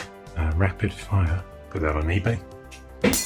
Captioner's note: clang